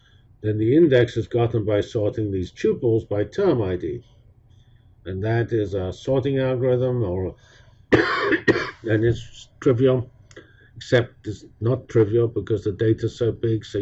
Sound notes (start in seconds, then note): 7.9 cough